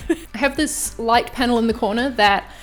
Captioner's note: laughing